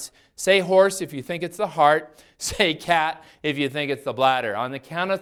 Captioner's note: laughs